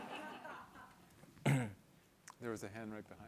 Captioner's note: laughter